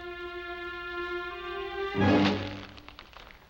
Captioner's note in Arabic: سحق الورق